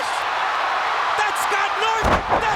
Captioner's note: crowd cheers